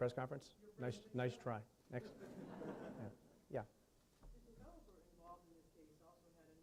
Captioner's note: laughing